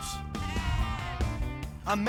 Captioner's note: sheep bleating